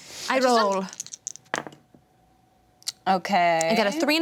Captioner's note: dice clatter